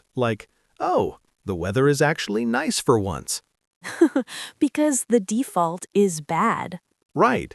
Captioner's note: laughs